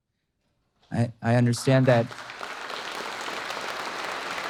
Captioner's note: audience aapplause